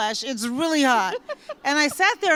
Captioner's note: laughter